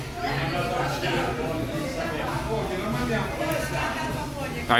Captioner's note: people chattering